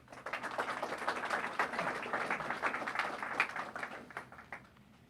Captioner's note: applause